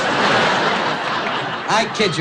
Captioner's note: laughing